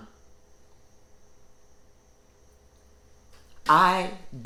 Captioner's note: insects chittering